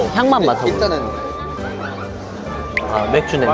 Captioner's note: sniff sniff